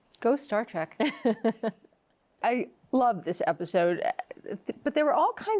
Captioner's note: laughs